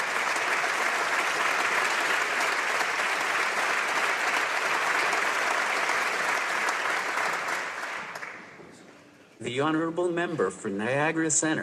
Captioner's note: applause